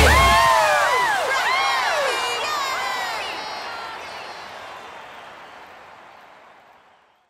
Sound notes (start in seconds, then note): 0.0 group whooping; 4.6 crowd cheering